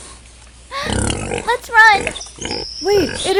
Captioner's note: gasps